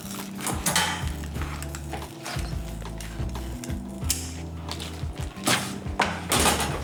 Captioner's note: scissor crunching and cutting